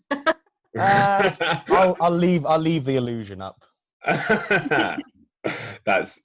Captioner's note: they laugh